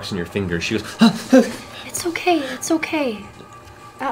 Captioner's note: gasps